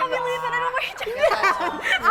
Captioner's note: laughs